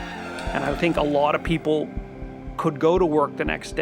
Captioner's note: cheering